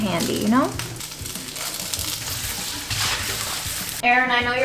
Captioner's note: sizzling sound